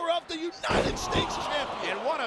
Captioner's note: body thudding; John Cena shrieking